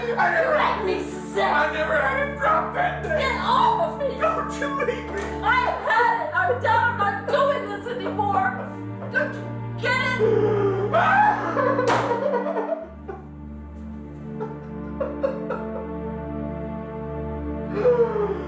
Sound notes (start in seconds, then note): 10.2 Charles crying; 10.6 sad music